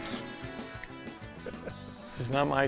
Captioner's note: laughs